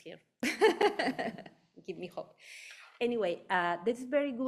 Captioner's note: laughing